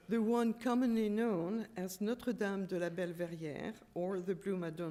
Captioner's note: french